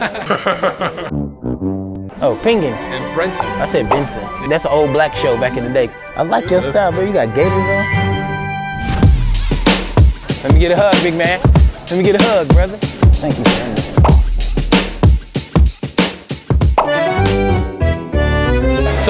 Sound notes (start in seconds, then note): 0.0 laughs; 0.0 slowed down laughing; 8.8 heavy beats; 14.0 pop; 16.9 accordion plays